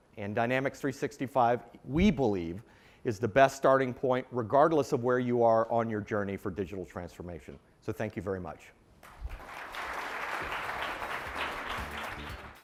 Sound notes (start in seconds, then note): 9.0 applause